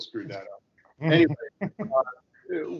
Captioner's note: chuckling